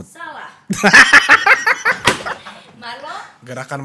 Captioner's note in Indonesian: ketawa sambil banting buku